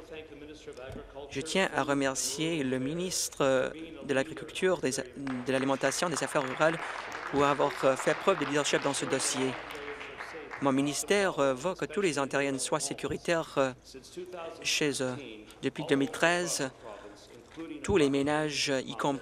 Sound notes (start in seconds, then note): 9.1 applause